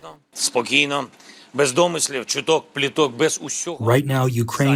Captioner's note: through translator